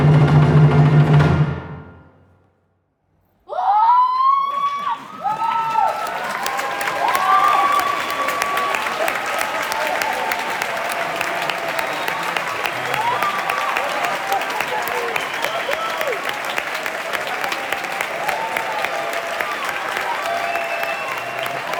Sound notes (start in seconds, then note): 3.5 cheers; 6.4 applause; 16.3 cheers and applause continue